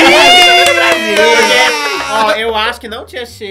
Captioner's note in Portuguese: gritos